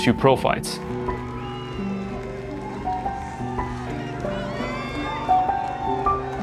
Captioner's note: soft music; crowd applauds and cheers